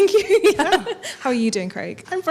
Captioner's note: chuckles